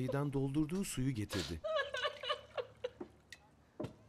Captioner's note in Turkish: Ağlama sesi